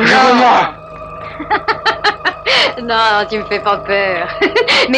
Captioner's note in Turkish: Beyza perdeden yansıyan Fransızca konuşmalar